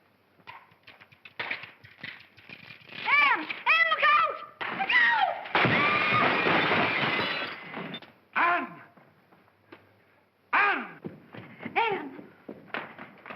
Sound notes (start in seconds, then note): 0.4 cracking sound; 5.5 big crash; 5.6 screams